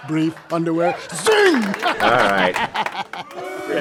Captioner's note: laughs